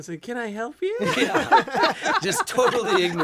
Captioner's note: laughter